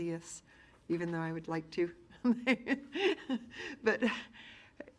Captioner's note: laughs